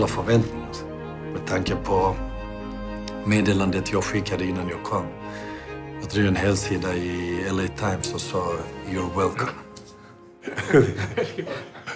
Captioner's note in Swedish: skrattar